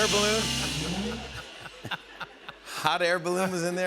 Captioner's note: laughter